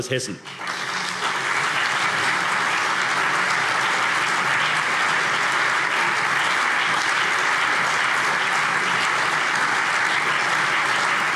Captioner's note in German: Allgemeiner lebhafter Beifall